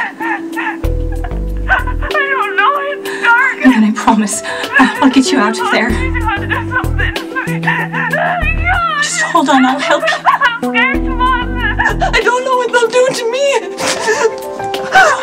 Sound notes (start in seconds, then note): 2.5 crying